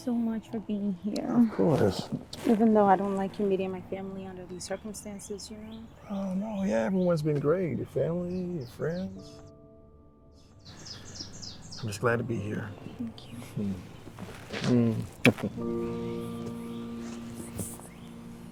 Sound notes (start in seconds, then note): 14.5 lips smacking; 15.7 gentle music